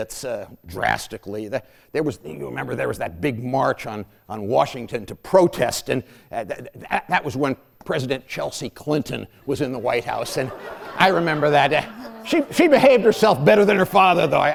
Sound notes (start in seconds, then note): 9.7 laughter